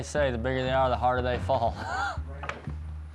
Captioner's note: laughing